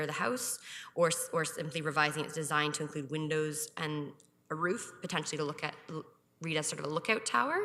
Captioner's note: none